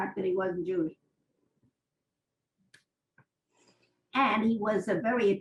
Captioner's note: pauses for 3 seconds